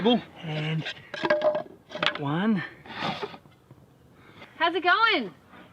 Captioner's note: wood clatters